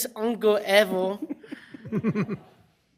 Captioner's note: laughter